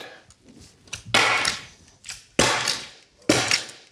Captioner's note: stapling sound